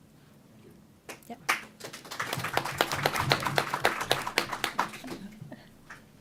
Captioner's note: applause